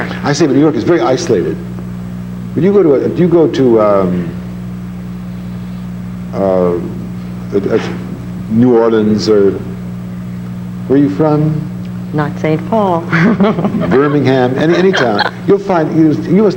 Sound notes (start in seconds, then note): 13.0 laughs